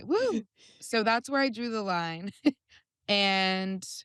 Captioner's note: chuckles